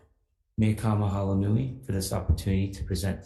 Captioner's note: speaking Hawaiian